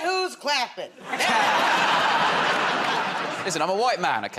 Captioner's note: laughter